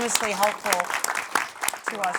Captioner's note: applause